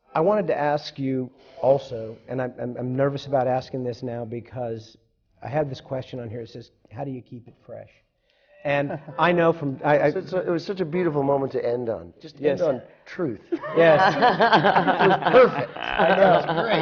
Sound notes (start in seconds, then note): 8.8 laughs; 13.5 laughs